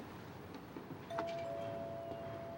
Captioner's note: doorbell rings